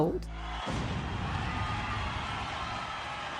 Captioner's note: cheering